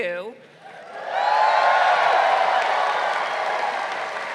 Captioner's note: graduates cheering